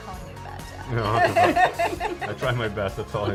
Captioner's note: laughing